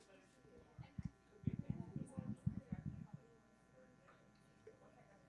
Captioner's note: groups chattering